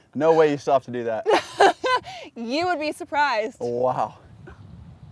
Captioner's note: laughs